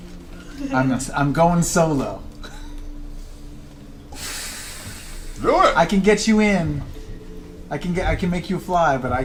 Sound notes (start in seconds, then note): 4.1 sighs